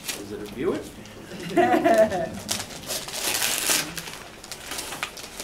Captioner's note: laughter